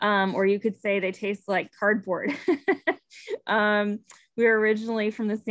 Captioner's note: laughing